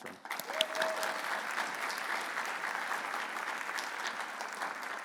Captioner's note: audience cheering